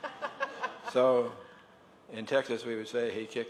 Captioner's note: laughter